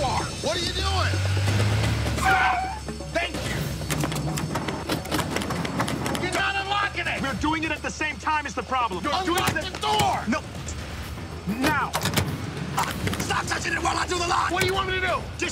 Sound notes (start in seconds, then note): 3.7 handle clunking; 3.8 lock clicking; 11.6 handle clunking